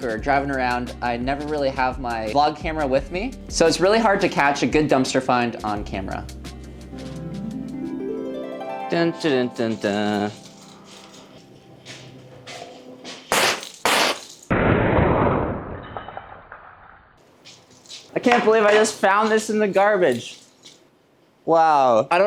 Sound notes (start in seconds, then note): 6.2 dreamy music; 13.6 spits